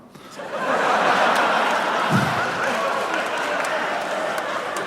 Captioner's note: audience laughs